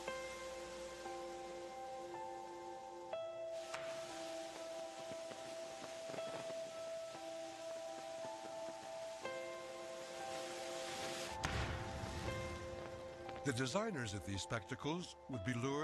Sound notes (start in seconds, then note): 5.2 fireworks popping; 11.3 explosion